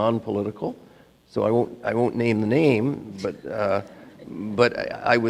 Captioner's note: audience laughing